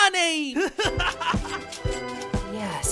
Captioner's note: yang laughs